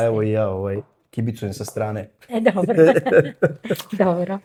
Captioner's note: laughs